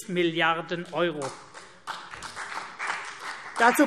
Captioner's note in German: Beifall CDU und vereinzelt BÜNDNIS 90/DIE GRÜNEN